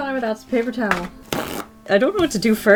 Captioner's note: paper towel rips